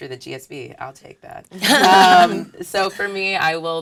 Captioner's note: laugh